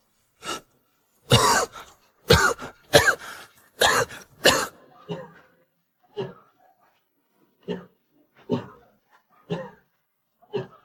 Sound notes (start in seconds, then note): 3.7 cough cough